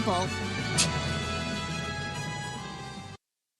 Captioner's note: scoffs